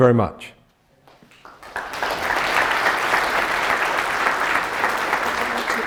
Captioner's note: audience applauding